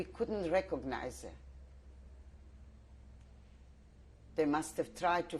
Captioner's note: pauses for 3 seconds